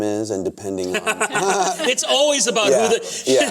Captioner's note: laughter